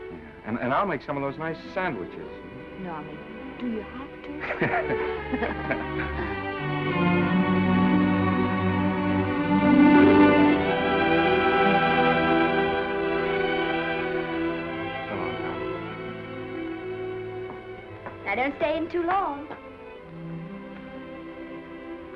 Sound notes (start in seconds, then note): 4.3 Norman and Esther laugh; 6.8 dramatic sentimental music